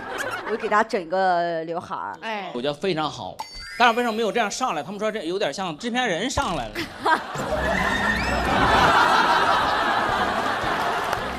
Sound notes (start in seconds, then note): 6.8 hahahaha